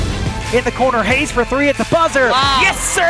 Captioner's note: voiceover